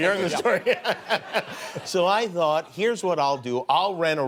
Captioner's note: laughs